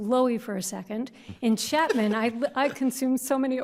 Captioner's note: justices laugh